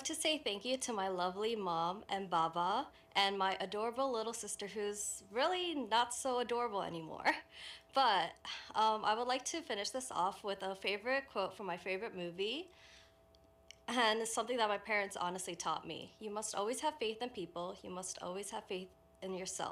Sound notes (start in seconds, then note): none